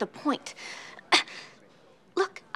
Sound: coughs

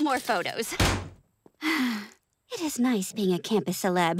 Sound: sighing

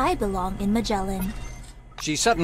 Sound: mechanical background noises

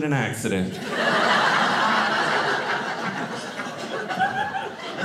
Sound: audience laughing

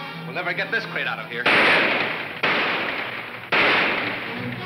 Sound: guns roaring

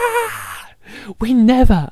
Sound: screaming

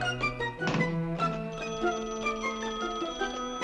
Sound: phone rings

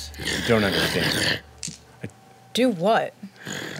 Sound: monster growling

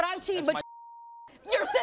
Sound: beeping

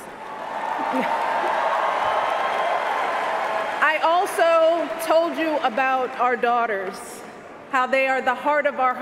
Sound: cheers, applause

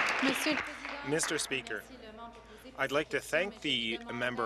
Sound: applause

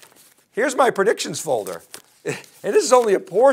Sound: chuckles

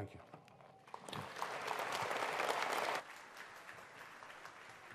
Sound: audience applauds

